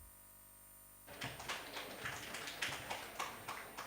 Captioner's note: applause